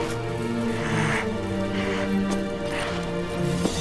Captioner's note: breathing heavily